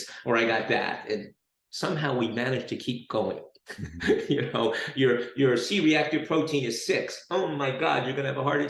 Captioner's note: chuckles